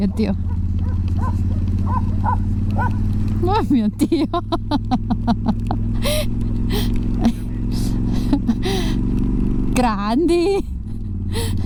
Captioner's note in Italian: Risate